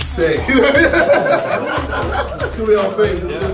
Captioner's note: KSI laughing